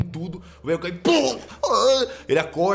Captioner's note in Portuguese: pow; gemidos de dor